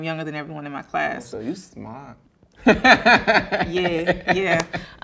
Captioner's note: laughing